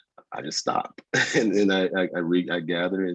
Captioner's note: laughs lightly